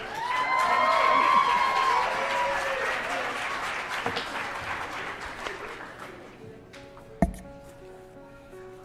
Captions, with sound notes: INTRODUCE TO YOU, THE PRESIDENT OF JEFFERSON COMMUNITY COLLEGE, DR. TY STONE. [APPLAUSE]